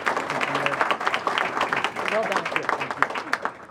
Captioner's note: applause